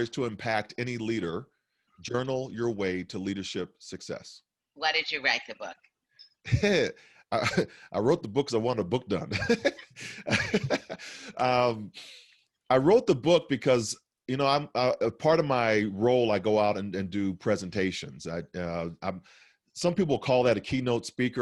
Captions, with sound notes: >> " 10 Power Stories to Impact Any Leader: Journal Your Way to Leadership Success" >> Why did you write the book because I wanted a book done. *laughs* i wrote the book because you know part of my role I go out and do presentations I uh some people call that a keynote speaker